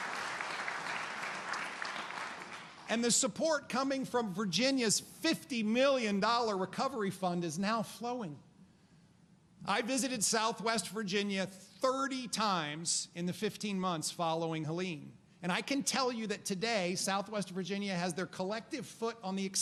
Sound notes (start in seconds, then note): 0.0 applause